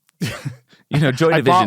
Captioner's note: chuckles